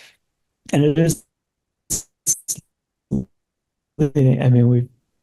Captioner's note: speaking faintly